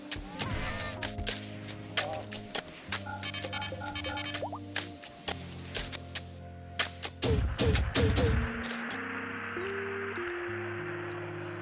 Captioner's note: typing